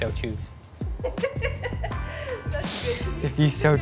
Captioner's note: laughter